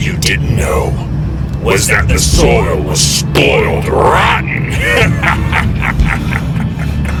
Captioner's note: cackling